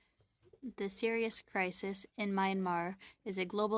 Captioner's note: speaking French